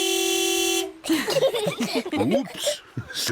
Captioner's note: horn honks; all laughing